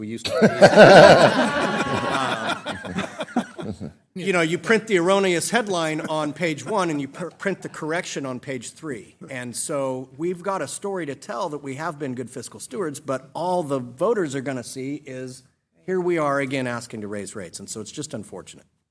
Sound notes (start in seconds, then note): 5.5 laughter